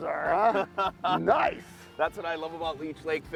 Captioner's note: laughs